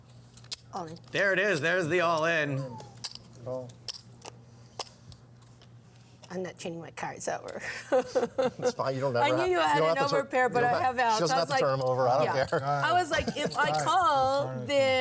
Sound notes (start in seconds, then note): 8.3 laughs